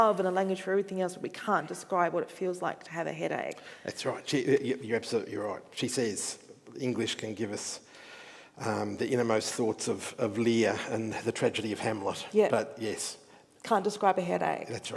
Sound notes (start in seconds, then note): none